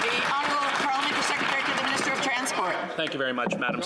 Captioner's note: some Applause